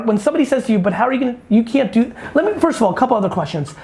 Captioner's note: fumbles over words